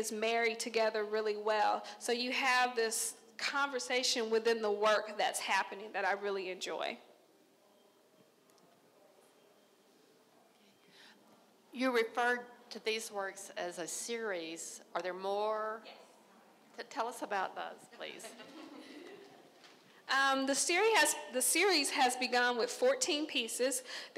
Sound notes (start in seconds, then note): 18.2 crowd laughing